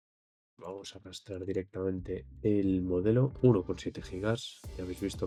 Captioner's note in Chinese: 英语